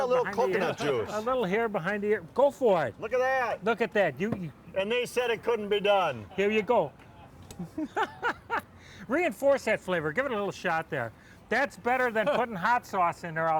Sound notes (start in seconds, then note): 7.6 laughs